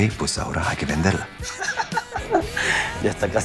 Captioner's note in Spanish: Risas